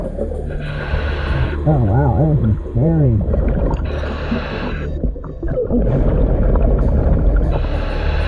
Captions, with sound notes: Oh wow, this one is buried. (mask hissing)